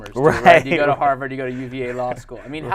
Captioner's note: laughing